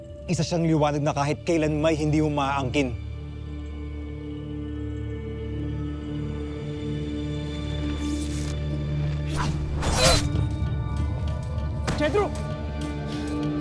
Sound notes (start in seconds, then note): 3.6 ominous music playing; 9.2 arrow swoosh; 9.3 groans